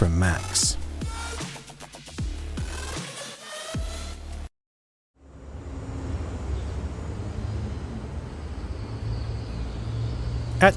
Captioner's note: night becomes quiet, city sounds, police sirens